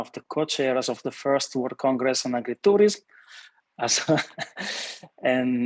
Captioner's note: laughing